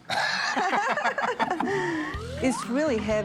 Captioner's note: laughing